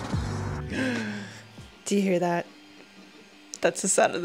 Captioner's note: gasp